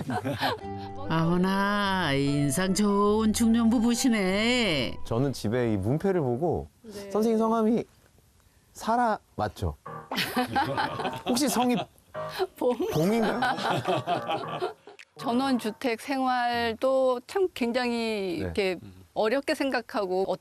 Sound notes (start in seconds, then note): 10.0 ㅎㅎㅎㅎㅎㅎㅎ